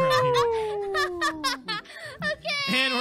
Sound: Unicorn cheers while Tina laughs

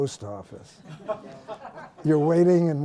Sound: laughter

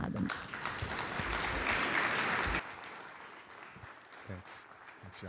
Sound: applause

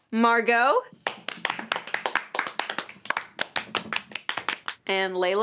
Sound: kids clapping

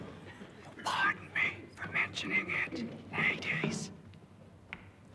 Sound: whispering

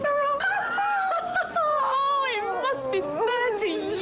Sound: woman laughing

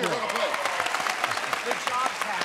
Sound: applause

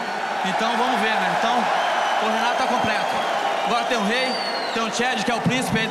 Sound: speaking Portuguese; audience cheering

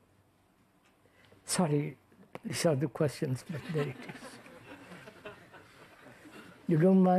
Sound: laughter

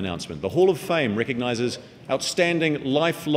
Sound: none

